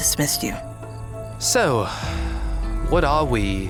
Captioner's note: sighs